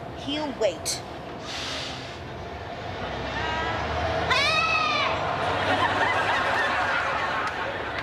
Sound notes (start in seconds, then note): 1.4 air brakes releasing; 2.7 bus pulling away